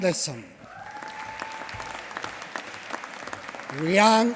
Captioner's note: applause